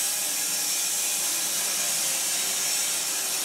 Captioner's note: saw whirring